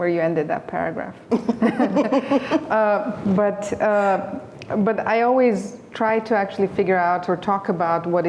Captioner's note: laughter